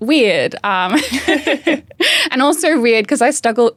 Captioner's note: both laughing